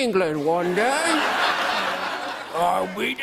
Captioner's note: laughter